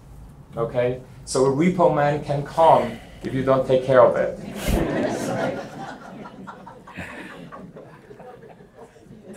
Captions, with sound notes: so a repo man can come if you don't take care of it. (audience laughing)